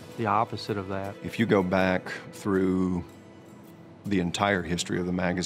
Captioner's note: voiceover